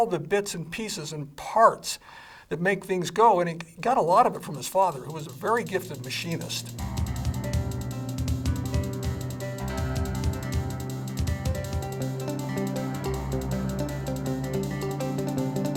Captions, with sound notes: and knowing all the bits and pieces and parts that make things go. And it got a lot of it from his father who was a very gifted machinist. (upbeat music) (motor vehicle humming)